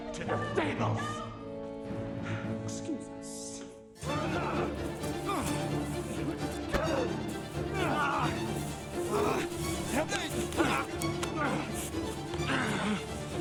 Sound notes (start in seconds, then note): 4.1 dramatic music; 6.8 groaning; 8.9 dramatic music